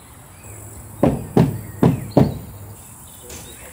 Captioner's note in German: Hämmern